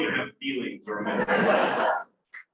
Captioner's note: laughter